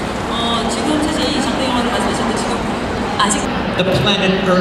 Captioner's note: speaking Korean